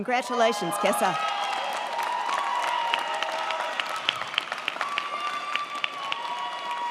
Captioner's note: crowd cheering; crowd clapping